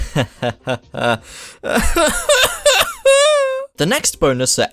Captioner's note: sobbing